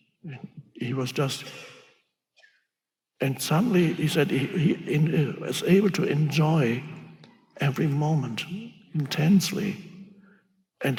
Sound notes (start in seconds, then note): none